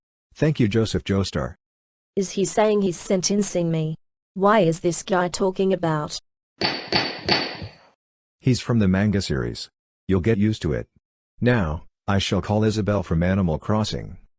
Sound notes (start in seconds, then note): none